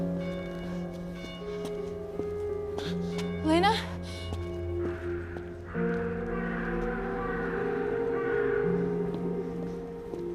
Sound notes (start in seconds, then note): 4.5 raven cawing